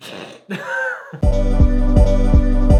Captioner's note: both laugh; upbeat music